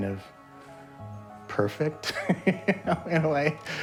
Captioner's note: laughs